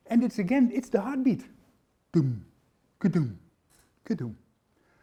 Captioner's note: imitating Heartbeats